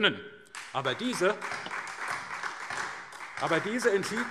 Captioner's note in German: Beifall